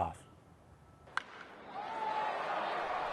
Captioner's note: crack of baseball bat hitting ball; cheering and crowd noise